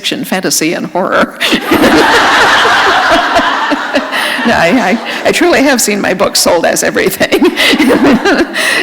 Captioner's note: laughter; chuckle